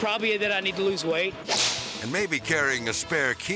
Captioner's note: whip cracks